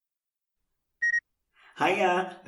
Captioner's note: beep